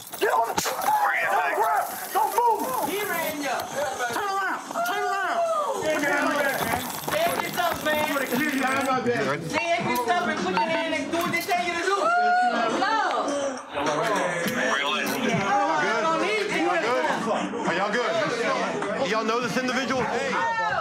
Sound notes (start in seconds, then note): 5.8 yelling; 13.9 yelling